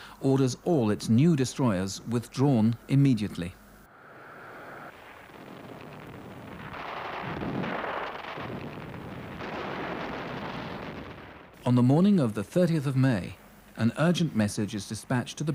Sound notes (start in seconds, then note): 4.9 bomb explodes; 8.5 guns fire